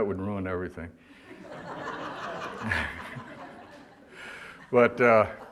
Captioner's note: audience laughter